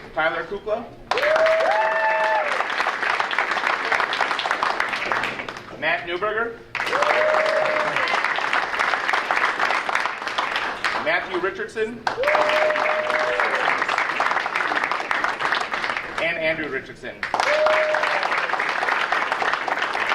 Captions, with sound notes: Tyler Kukla? (audience cheering) Matt Neuberger? (audience cheering) Matthew Richardson? (audience cheering) And Andrew Richardson. (audience cheering)